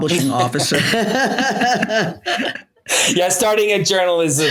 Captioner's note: everyone laughing